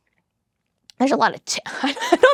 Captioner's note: laughs